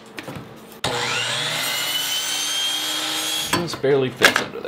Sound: saw whirs

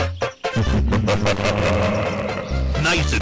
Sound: evil laughter

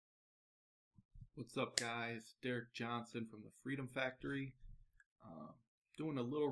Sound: hand clap

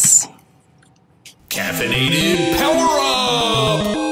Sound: voiceover; video game music

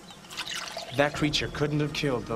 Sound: liquid pouring

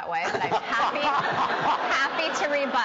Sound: audience laughing

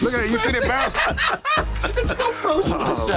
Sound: both laugh

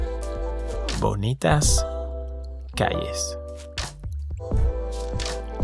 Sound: Spanish

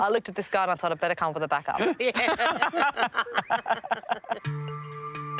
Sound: laughter; intriguing music playing

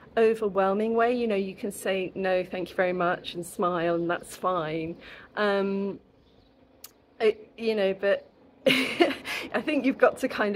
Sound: laughing

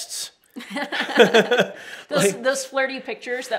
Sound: both laugh

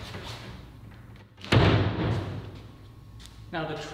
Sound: wood thuds

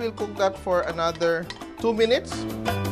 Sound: clang

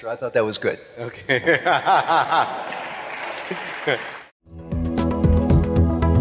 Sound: laughs; applause

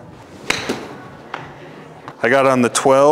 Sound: ball thuds

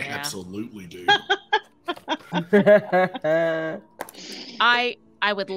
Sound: Deborah laughing

